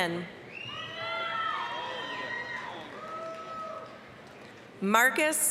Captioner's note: applause, cheering